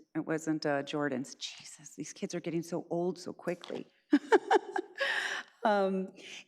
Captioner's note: laughs